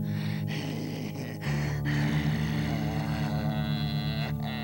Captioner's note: laughs maniacally